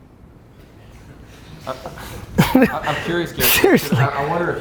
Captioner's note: group laughs